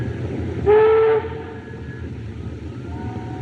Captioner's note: ship's Horn Blows